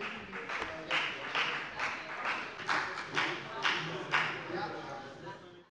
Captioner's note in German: Beifall bei der FDP